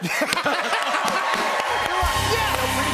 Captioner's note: laughter; cheers and applause